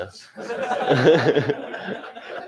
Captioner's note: laughter